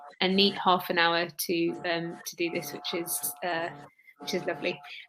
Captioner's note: erm